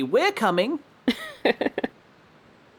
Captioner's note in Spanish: umbreon ríe